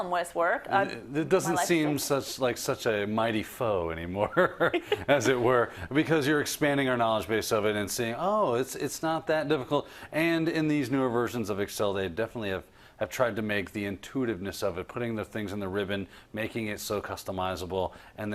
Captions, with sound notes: the column width works. -It doesn't seem like such a mighty foe anymore [LAUGH] as it were. Because you're expanding your knowledge base of it and saying it's not that difficult. And in these newer versions of Excel, they definitely have tried to make the intuitiveness of it. Putting the things in the ribbon, making it so customizable.